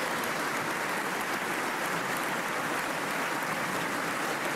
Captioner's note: applause